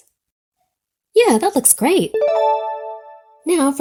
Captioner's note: check mark dings